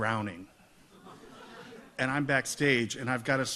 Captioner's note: audience laughs